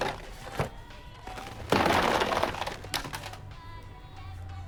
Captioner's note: condoms thudding